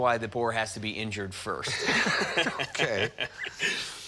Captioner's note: laughs